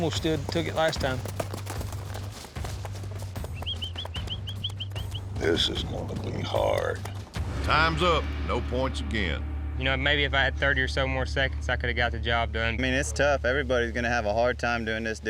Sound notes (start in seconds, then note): 0.0 hoofbeats; 2.0 hoofbeats, whistling